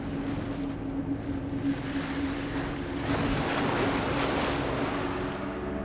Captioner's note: ethereal music; waves crashing